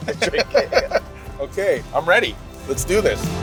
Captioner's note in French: Rires